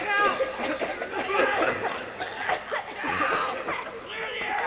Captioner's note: guards coughing violently